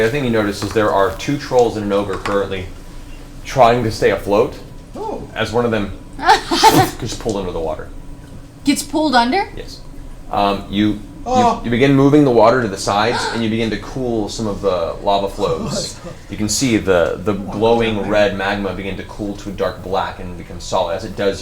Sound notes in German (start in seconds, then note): 6.4 Schlürfgeräusch; 11.2 schreit